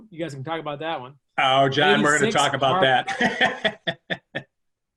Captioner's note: laughs